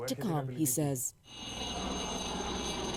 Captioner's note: speaking Foreign Language